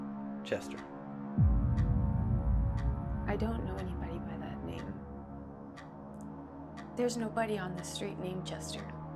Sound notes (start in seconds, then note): 1.4 clock ticking; 1.4 gentle tense music